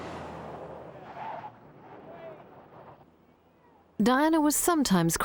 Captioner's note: car screeches